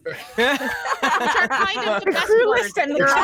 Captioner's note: players laughing